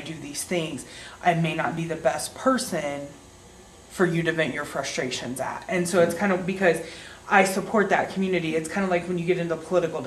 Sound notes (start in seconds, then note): none